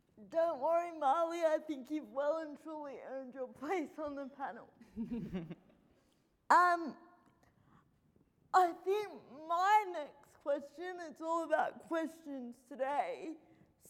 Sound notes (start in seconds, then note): 4.9 laughing